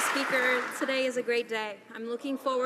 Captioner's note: some Applause